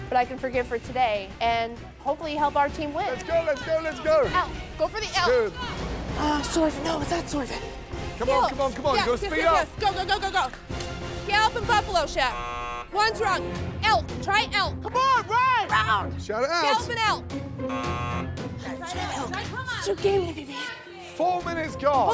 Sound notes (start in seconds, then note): 17.7 buzzer